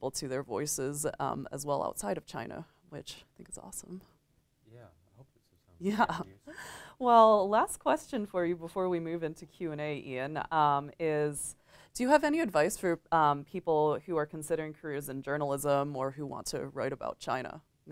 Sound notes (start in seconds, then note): 5.9 chuckles lightly